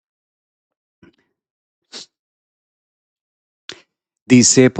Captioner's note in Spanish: resoplido